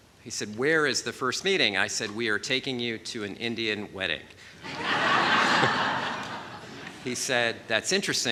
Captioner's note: laughter